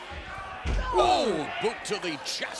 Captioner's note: commentators exclaim